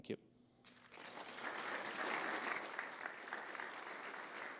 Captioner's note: clapping